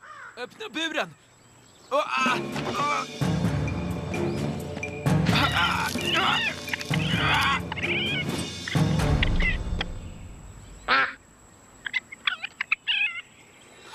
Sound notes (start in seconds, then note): 10.8 quacks; 11.8 chitters